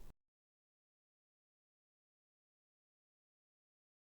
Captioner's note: silence as it grows